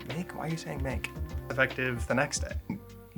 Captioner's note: burps